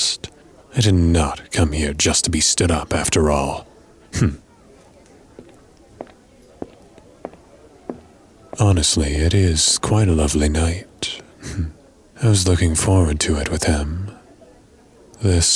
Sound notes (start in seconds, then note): 4.7 walking